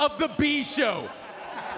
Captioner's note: laugh